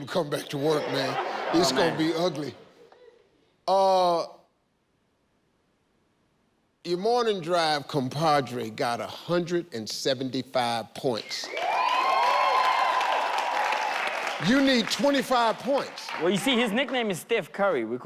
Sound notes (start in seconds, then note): 2.8 laughing; 11.3 audience cheering